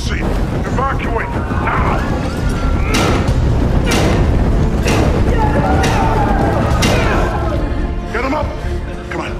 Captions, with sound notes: Evacuate now! [clanging] [yelling] Get 'em up!